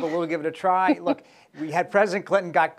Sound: laughter

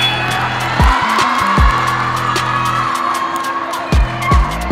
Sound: cheering

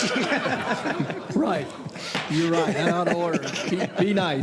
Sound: laughter

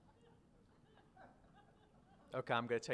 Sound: audience laughter

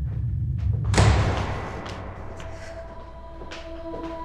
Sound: door closing

